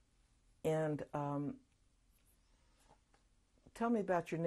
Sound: pauses for 3 seconds

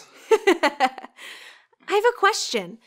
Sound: girl giggles

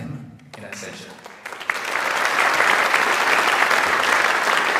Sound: audience applauds

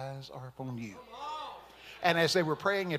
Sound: congregation shouting

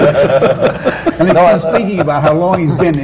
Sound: laughter

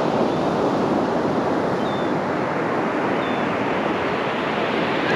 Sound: birds and Gulls calling nearby

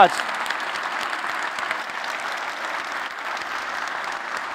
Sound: applause

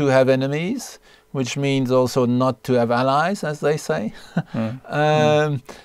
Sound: chuckles

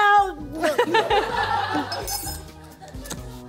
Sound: laughing

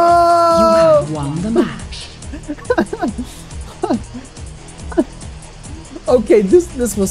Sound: laughs

